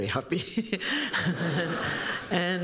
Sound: laughter

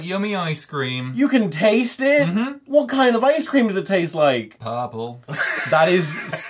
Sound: laughter

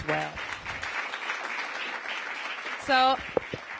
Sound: applause

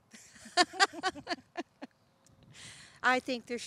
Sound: laughter

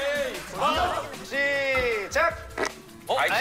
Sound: fart Sound

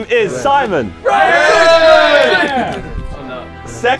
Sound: men cheering

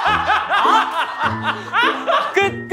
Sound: laughing

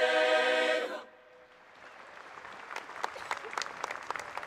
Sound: applause

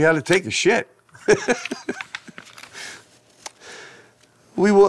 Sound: laughing

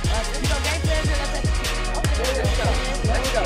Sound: murmurs

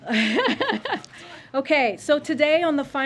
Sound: laughter

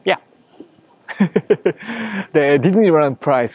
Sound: chuckles

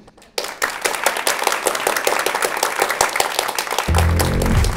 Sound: applause

